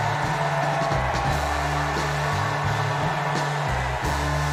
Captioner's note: cheers and applause